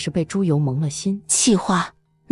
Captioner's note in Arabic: كلمات قيلت بانفعال